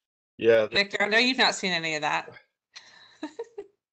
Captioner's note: laughs